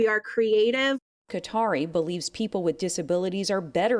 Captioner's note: voice-over